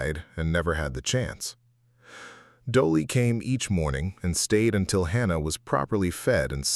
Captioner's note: sighs and gasps